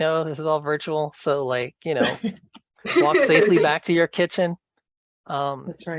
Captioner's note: laughter